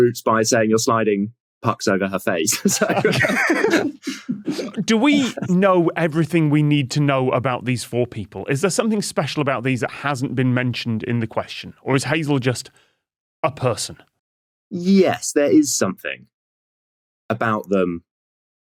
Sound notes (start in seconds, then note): 2.5 group laughing